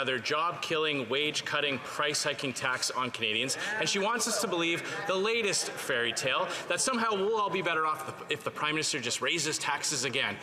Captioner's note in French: voix de l'interprète